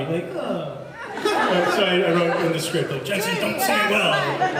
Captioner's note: laughs